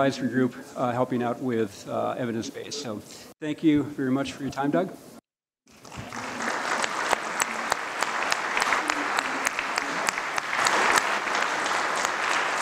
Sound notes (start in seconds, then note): 5.6 applause